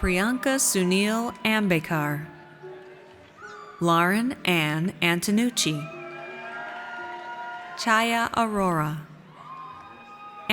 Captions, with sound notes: Priyanka Sunil Ambekar. Lauren Ann Antonucci. (audience cheers) Chhaya Arora.